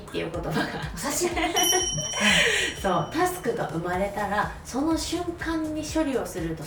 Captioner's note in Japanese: 笑い